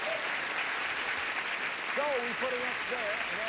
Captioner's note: audience applauding